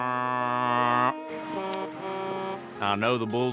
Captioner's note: truck's horn honking